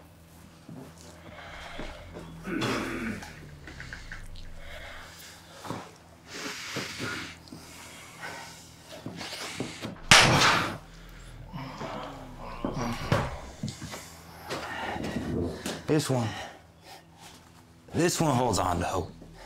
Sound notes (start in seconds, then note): 1.3 tense music; 10.0 groans; 10.1 hand slaps